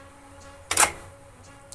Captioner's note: clicking